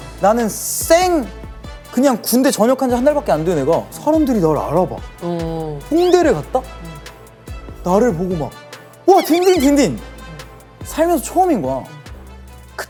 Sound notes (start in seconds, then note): 9.2 muttering excitedly